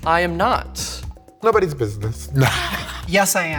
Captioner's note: laughing